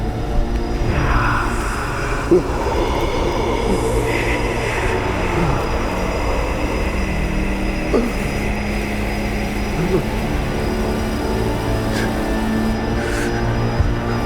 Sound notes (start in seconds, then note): 0.9 Reed gasps for air; 0.9 creature whispering; 10.8 tense gripping music